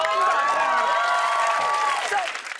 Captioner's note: cheers and applause